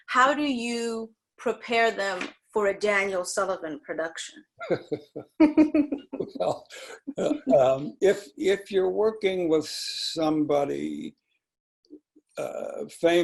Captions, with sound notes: how do you prepare them for a Daniel Sullivan production? (laughing) - Well, if you're working with somebody famous,